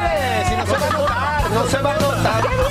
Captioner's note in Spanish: risas